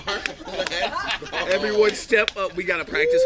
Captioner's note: slapping his hands